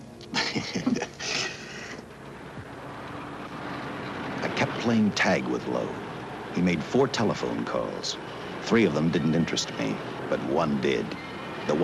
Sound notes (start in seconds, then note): 0.3 Chasen chuckles; 1.9 cars whooshing